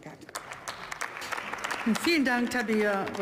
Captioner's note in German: Beifall